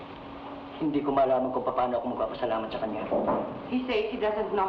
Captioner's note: man speaking in Tagalog